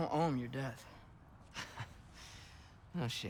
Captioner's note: laugh